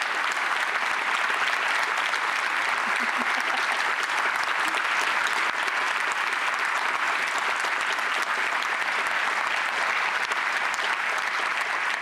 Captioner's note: applause